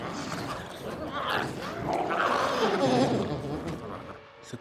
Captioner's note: glowzies growling